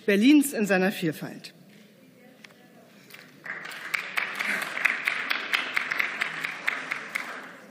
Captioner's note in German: Beifall